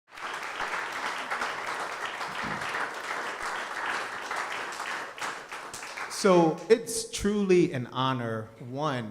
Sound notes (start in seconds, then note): 0.0 audience applauding